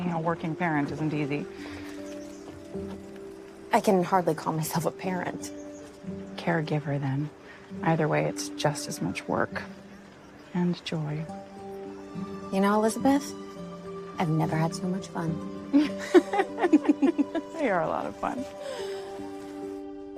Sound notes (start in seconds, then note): 15.7 both laughing